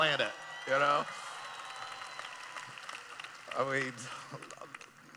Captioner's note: cheering